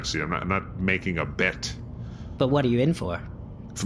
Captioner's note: conspiratorially